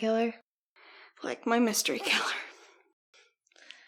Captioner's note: laughs